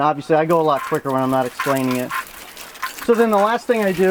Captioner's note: water spraying